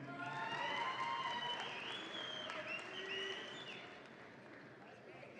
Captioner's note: audience applauds and cheers